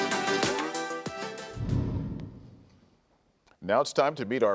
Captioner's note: upbeat music; wind whooshes